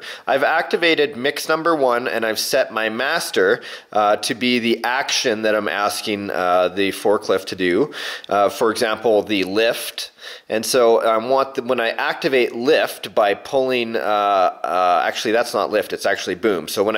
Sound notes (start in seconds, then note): none